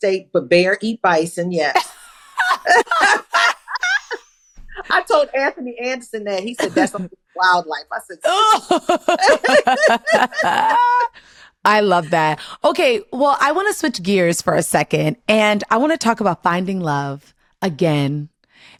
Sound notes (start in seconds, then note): 8.5 laughter